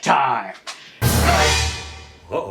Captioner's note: dramatic sound effect